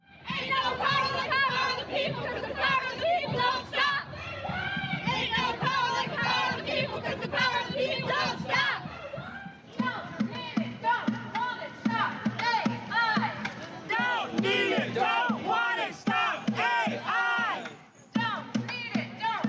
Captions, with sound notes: (chanting) Ain't no power like the power of the people, 'cause the power of the people don't stop! (chanting) Don't need it, don't want it, stop AI!